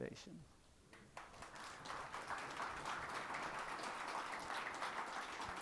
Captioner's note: people applauding